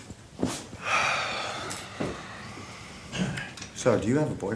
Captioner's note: Ron sighs